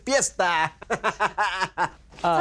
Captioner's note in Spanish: Risas